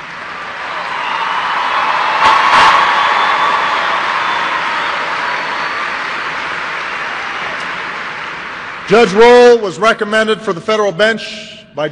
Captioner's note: applause